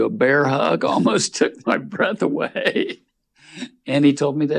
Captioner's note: laughing